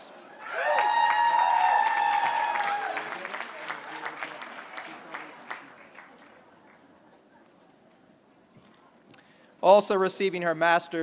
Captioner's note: applause